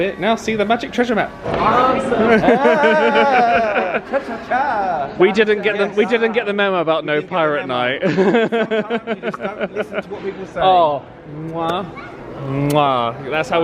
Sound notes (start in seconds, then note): 2.2 both chuckling; 8.0 laughing